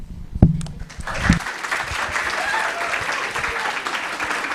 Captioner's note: applause